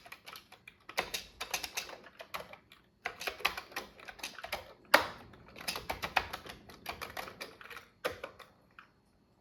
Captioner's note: typing on a Commodore 64 keyboard